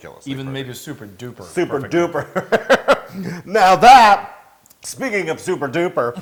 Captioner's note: laugh